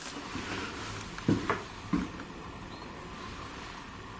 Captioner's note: footsteps